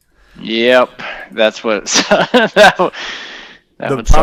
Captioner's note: laughter